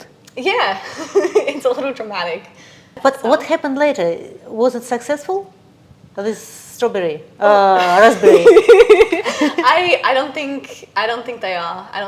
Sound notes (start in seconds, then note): 7.9 laughing